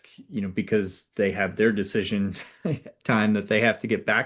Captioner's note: laughs